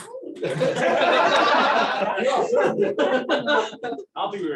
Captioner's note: laughter